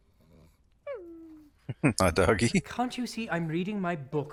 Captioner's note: chuckling